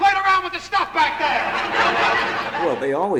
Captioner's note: audience laughs